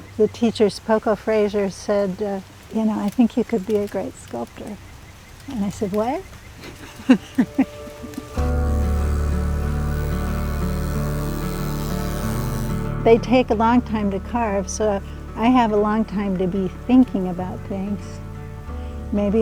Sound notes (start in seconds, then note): 6.6 laughs